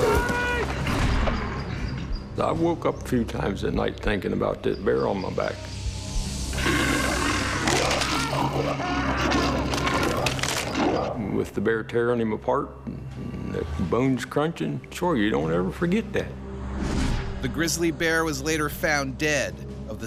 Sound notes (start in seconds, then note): 6.5 bear growling; 7.5 bones crunching; 9.1 screaming; 17.9 voiceover